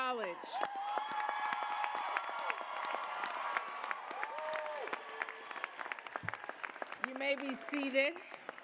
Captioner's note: cheers, applause